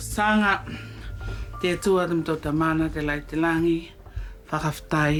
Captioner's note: praying in local language